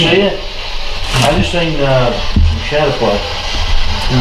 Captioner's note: thudding